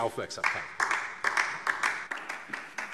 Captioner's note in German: Beifall DIE LINKE